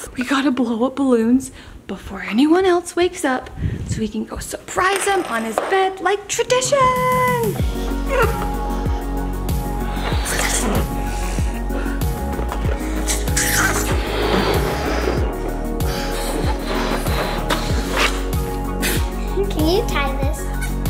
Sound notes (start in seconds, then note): 7.6 playful music plays; 11.1 balloons squeak; 14.3 blowing hard; 18.9 snorts